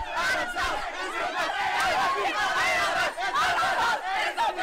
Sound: chanting

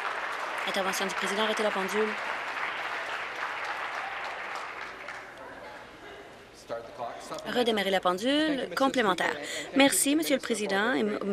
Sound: some Applause

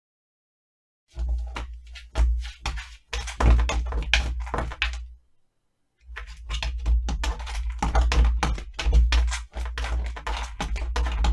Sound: sound of cat claws

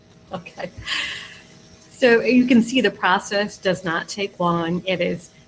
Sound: laughs

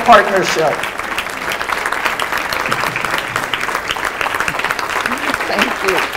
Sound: applause

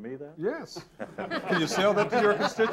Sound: all laughing

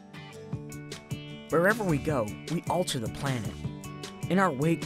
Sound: upbeat music; voiceover

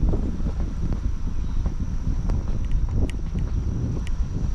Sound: wind bustling

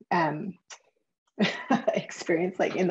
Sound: chuckles

